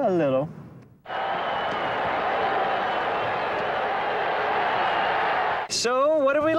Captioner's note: crowd cheering